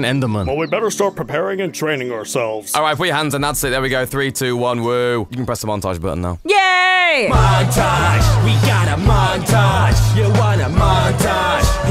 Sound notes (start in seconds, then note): 4.8 sarcasm